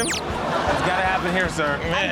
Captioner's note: audience laughs